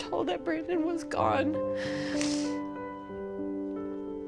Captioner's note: sniffling